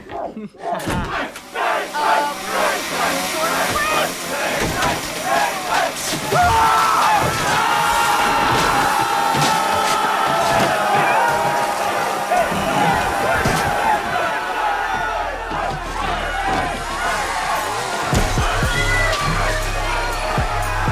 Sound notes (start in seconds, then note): 0.1 people shouting; 1.7 chainsaw buzzing; 6.1 yelling; 17.9 people shouting